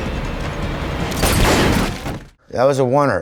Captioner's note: gun firing